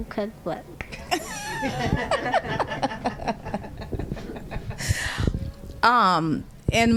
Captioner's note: laughter